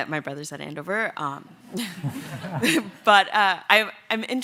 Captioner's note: laughter